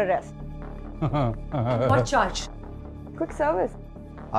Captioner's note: Gajraj Jogi Chuckling